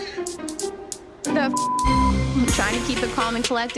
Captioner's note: beep